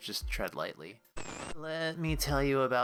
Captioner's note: static